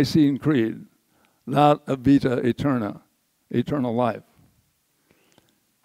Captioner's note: says word in foreign language